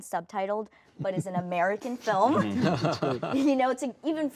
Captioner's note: laughing